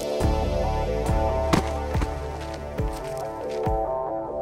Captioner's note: crossbow fires; body thuds